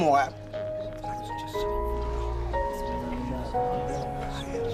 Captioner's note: crowd whispers